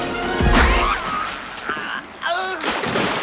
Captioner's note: groans; water Splashes